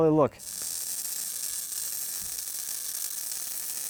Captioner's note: sparking